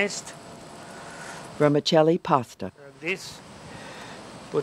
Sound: voiceover

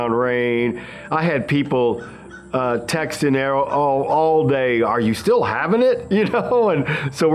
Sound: laughs

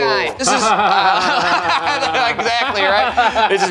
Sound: group laughing

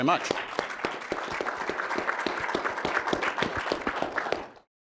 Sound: everyone applauds

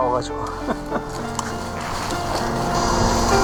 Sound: laughing

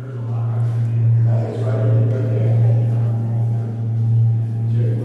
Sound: tourists chatting

